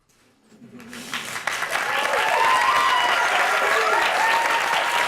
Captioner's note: applause